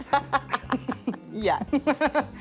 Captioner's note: laughs